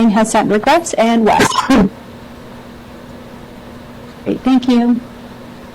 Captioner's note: person coughs